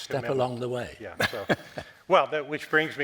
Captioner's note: Norman laughing